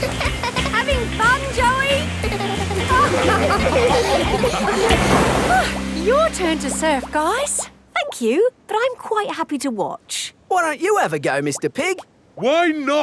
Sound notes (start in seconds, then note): 0.0 giggles; 2.9 laughing